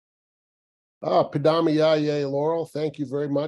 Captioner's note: non-english